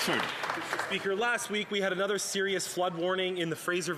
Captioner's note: some Applause